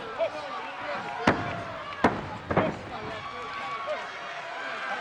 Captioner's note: referee smacking; crowd yelling